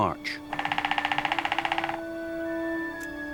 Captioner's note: pecking